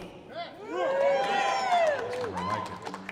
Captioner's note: audience whoops